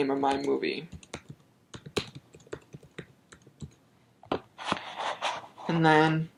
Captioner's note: typing